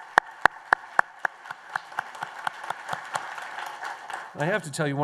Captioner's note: applause